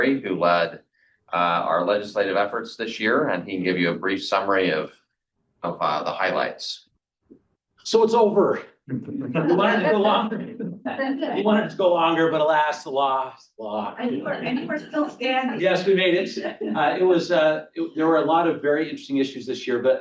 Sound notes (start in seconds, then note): 8.9 all chuckling; 15.6 trustees chuckling